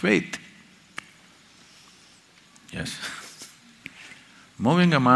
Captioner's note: laughs